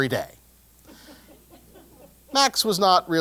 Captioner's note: laugh